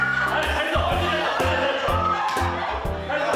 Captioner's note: excited audience